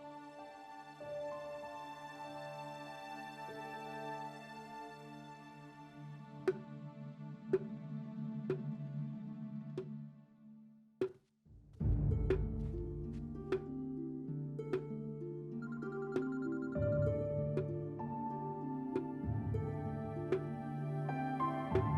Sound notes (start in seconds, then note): 6.3 stick knocking; 15.6 phone ringing; 18.3 brooding music continues